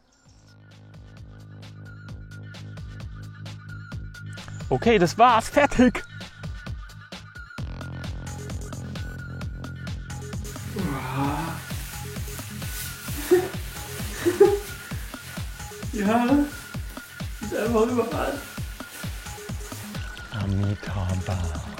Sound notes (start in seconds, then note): 13.1 laughs